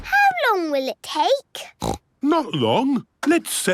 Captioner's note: snorts